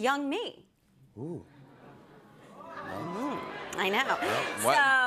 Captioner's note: audience "Oohs"